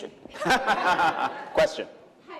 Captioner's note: laughter